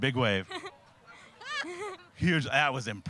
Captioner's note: laughing